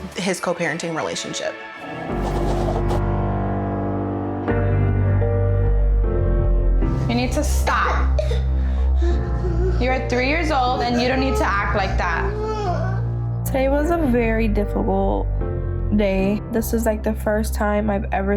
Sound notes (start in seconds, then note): 1.9 moody piano music; 10.7 girl crying